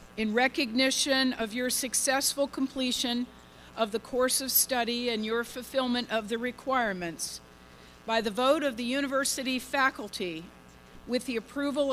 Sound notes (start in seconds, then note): none